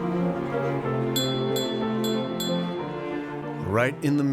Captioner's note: metal tapping glass